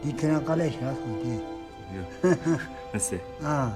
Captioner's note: speaking Tibetan